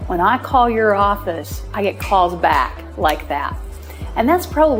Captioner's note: snaps